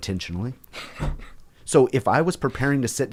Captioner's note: laughing